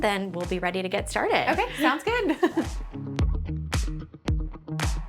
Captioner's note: chuckles